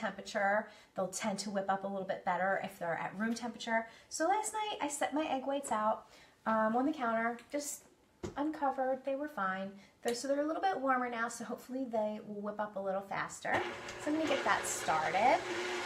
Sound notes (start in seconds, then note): 13.5 mixer hums